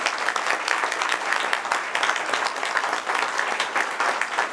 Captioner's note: people applaud